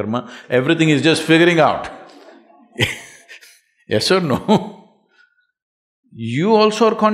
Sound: laughs

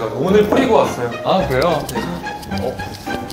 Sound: flap

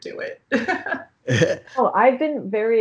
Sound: chuckling

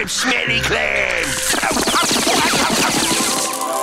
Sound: yelling

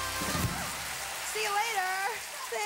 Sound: applause

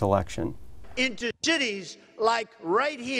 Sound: Donald Trump speaking

